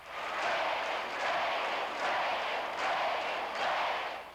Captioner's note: crowd chanting "reagan! reagan!"